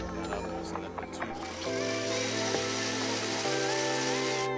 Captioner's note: tool whirring